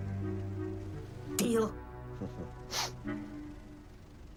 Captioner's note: chuckles